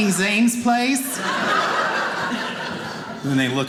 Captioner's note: audience laughing